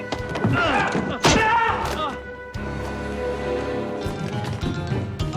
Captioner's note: Ray screaming; dramatic music